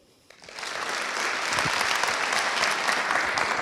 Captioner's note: applause